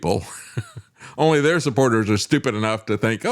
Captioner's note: laughs